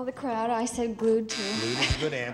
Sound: buzzer

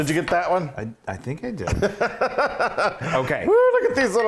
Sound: laugh

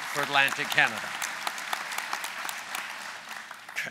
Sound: applause

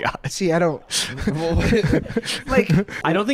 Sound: chuckles

